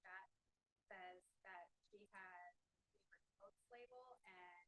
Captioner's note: breaking voice